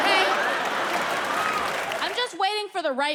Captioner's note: audience laughs